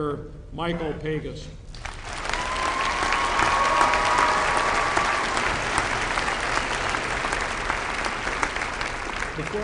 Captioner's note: applause